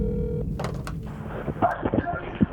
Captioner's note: mechanical buzzing; phone ringing